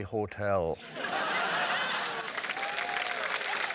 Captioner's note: laughter